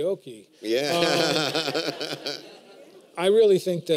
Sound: laughter

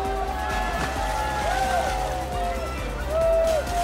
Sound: crowd cheering

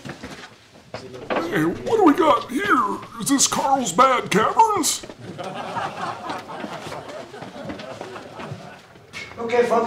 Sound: laughter

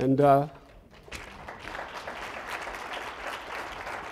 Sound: audience applauds

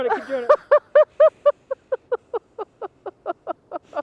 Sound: woman laughing

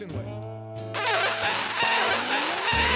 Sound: sucking

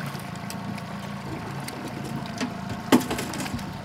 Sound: fish splashing; boat engine idling; reel cranking

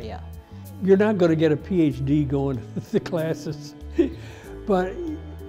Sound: laughs

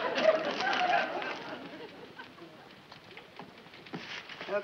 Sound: audience laughs; paper crumpling

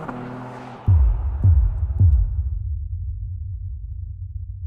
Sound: car revving in background; rhythmic beating

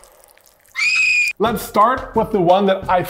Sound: woman screaming

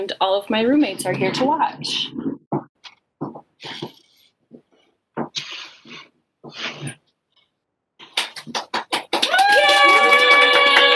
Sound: cheering

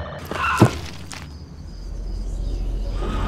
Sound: bloody splattering noise

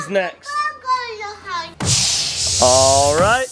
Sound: kids shouting

